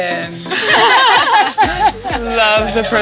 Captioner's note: laughter